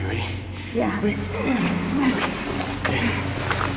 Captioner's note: grunts